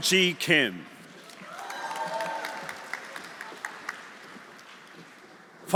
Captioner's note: audience applauding; audience cheering